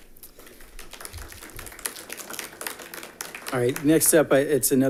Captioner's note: attendants applauding